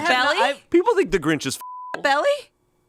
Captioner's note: beep